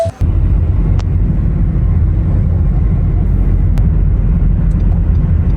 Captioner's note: car engine whirring